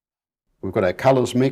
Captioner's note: silence